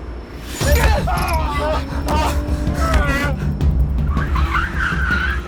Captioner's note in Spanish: Gritos; Chirrido de llantas